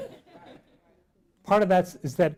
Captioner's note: laughing